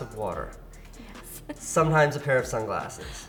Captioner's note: laughs